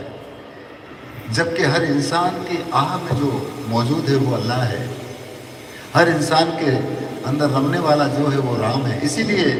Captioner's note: breath